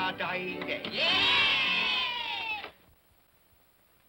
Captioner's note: children cheer